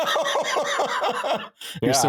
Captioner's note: laughing